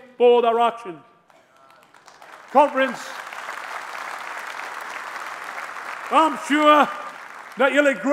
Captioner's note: applause